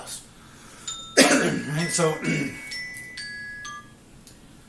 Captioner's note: phone ringing